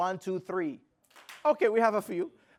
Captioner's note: clap